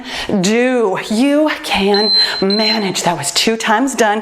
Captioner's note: timer beeps